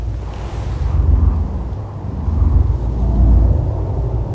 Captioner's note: wind howling